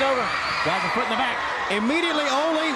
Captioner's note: crowd cheering